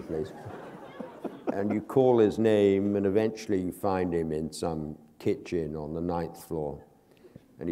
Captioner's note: laughter